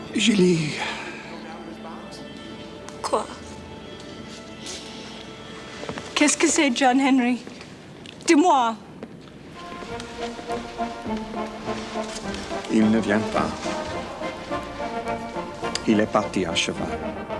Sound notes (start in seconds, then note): 6.1 speaks French; 8.2 Jilly speaks French; 9.5 upbeat orchestral music; 12.6 John speaks French; 15.8 John speaks French